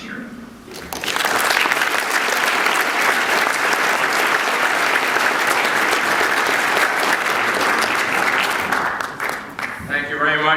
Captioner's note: applause